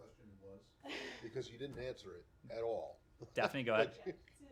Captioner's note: laughter